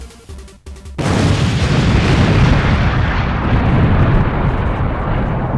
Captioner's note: explosions